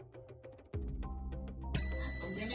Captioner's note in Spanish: sonido: piiiii